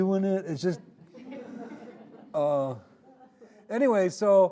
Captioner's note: audience laughing